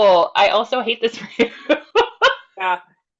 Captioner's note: laughs